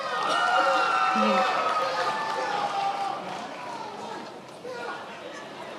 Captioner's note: attendees applauding and cheering